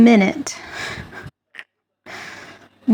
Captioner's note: laughs